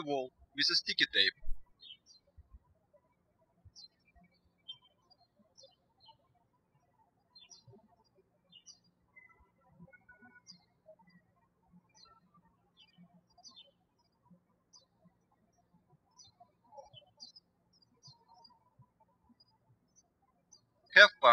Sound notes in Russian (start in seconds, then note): 3.0 птички щебечут